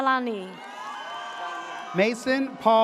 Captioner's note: audience cheers